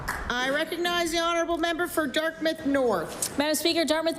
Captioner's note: applause